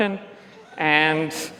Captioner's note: laughs